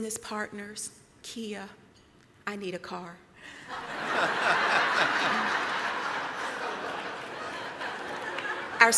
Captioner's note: laughter